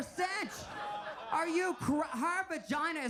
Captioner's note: audience laughs